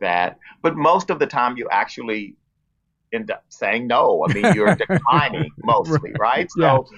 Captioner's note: laughs